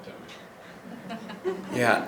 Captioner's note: audience members laughing